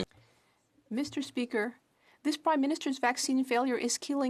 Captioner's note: speaking French